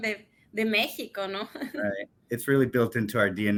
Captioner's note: speaks in Spanish